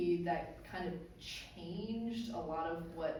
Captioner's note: none